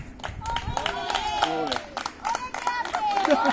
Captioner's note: applause